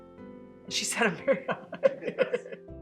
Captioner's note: laughter